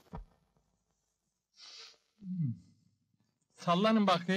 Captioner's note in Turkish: koklar ve ti̇ksi̇nme sesi̇ çikarir